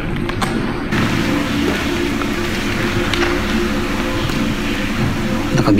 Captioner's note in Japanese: トンネル内の反響音